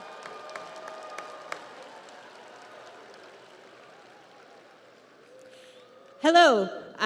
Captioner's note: audience applauds; audience cheers